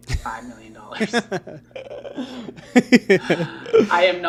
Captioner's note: laughs